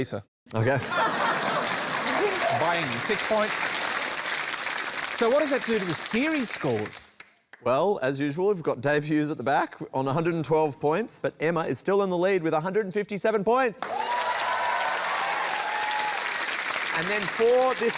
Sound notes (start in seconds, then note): 0.6 laughter; 4.8 applause; 13.8 cheering, applause